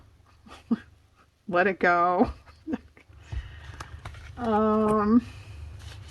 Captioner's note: laughs